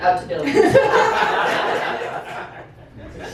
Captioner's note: laughter